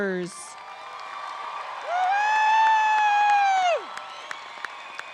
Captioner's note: applause and cheering